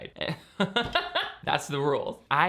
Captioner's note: laughing